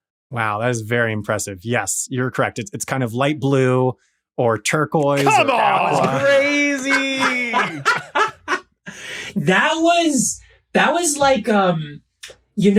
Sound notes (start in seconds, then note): 7.2 cackles joyfully